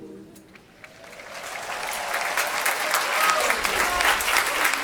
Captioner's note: applause